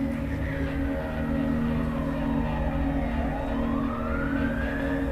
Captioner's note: sirens blaring